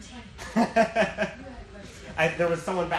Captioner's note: laughing